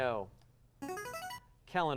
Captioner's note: buzzer